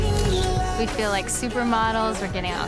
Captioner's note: camera snaps